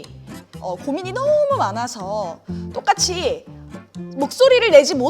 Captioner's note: none